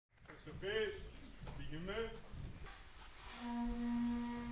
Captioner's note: audience member shouting; gentle horn music